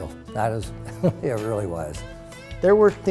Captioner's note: laughing